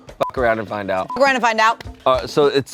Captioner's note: beep